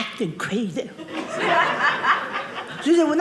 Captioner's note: audience laughing